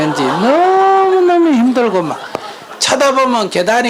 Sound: audience Laughter

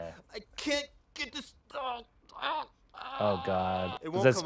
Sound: groans

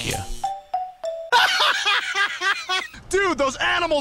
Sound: Mario Laugh

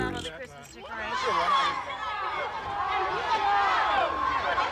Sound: shouting

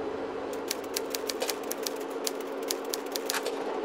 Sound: typewriter keys clack

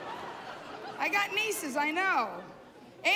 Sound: laughter

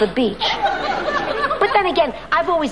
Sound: audience laughing

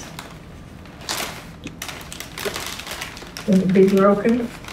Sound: paper crinkling

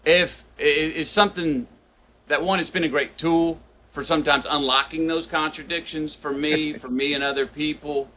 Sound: Sadhguru laughs

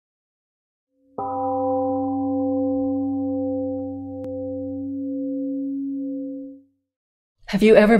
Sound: 🎵 Temple gong rings and fades 🎵

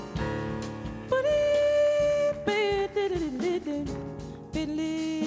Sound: vocalizing

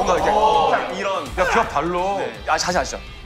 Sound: shout

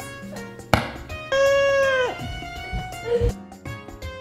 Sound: screaming

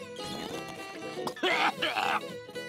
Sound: coughing

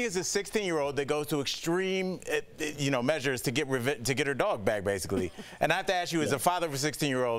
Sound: laughter

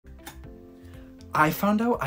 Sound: lamp clicking

